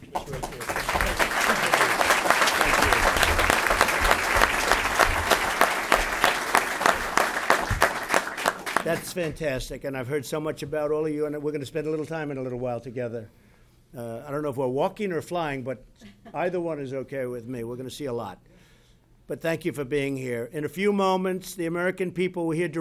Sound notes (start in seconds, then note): 7.8 applause; 15.9 laughs